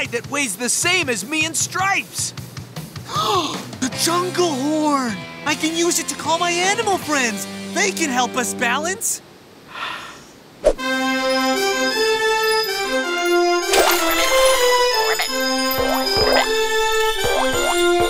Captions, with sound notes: that weighs the same as me and Stripes. [gasps] The jungle horn! I can use it to call my animal friends. They can help us balance. [inhales] [playing horn] [croaking]